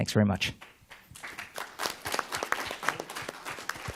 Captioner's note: applause